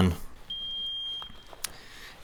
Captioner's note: beep